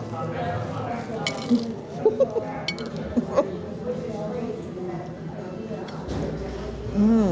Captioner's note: plate clinks